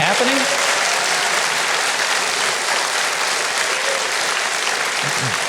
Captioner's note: audience applauding